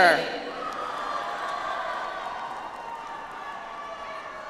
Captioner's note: audience applauds